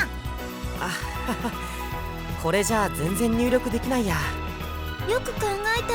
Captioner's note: awkward laugh